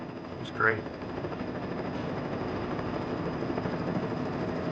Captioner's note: helicopter whirring